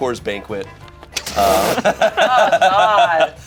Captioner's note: group laughs